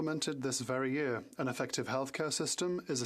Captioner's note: speaking french